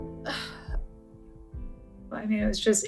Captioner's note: sighs